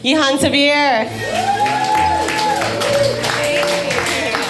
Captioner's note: audience cheering; spooky music